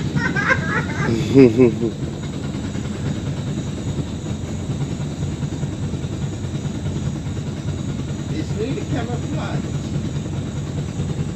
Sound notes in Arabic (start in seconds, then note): 0.0 يضحك; 2.8 طنين محرك القارب